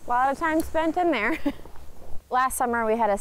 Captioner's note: chuckles